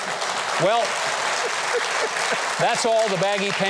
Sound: audience applauding

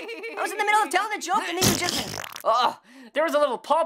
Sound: wet fart

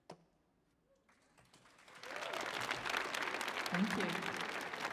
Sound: audience applauding

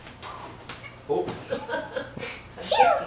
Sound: laughing

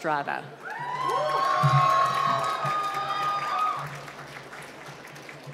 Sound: cheering and applause

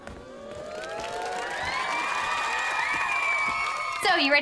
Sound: audience cheering

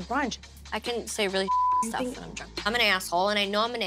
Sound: beep

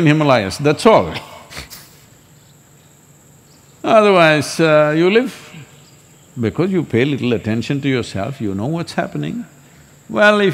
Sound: laughs

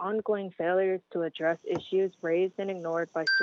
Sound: chime

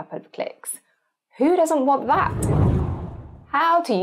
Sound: screen whooshes

